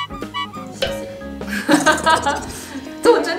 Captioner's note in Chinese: 被逗樂